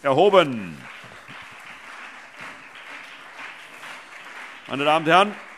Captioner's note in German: Beifall CDU und BÜNDNIS 90/DIE GRÜNEN